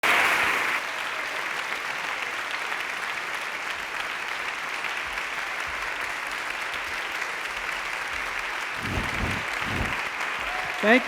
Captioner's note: applause